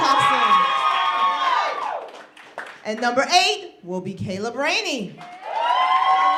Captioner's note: applause; applause